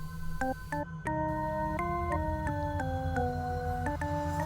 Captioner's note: sound of cell phone ringing